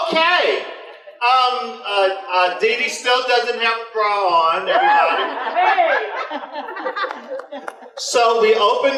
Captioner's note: general laughter